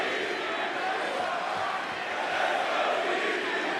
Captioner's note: crowd cheering